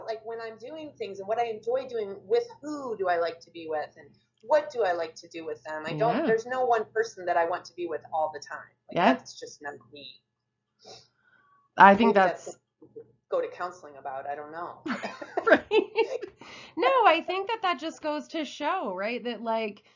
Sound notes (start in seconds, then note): 14.9 laughs